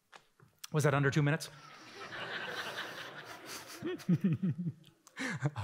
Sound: laughter

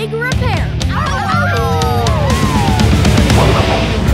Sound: howling

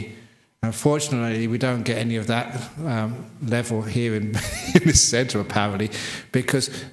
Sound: laughs

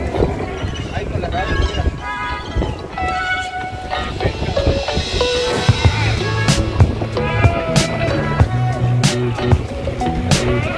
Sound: loud sea lions sounds

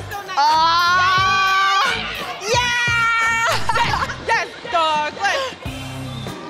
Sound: cheering

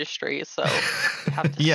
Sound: chuckles

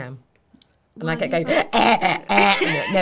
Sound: groaning

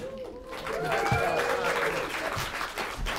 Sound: applause

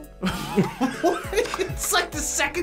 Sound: both laugh

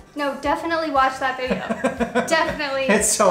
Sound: laughs

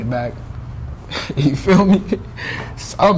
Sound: laughing

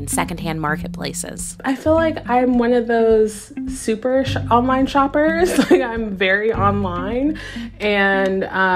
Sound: laughter

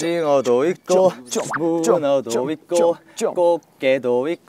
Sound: slurping squid ink

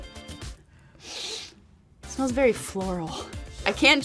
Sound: sniffing

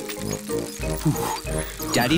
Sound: panting

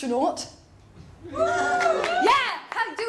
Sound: audience whoops

